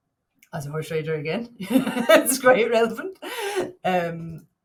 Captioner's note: chuckles